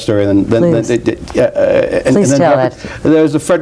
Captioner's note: Theodore stammers